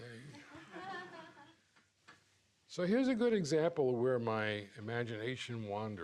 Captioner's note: laughs